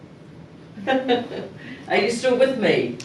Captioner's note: laughing